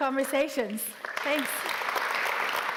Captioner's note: applause